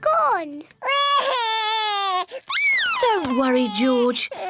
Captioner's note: cries